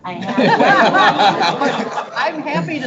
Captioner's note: board members laughing